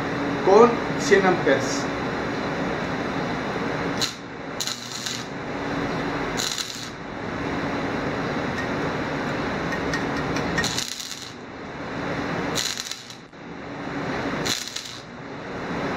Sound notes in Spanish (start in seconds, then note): 3.3 Sonido chispas de soldadura